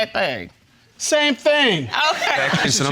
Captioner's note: audience laughing